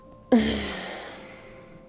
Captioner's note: groans in disappointment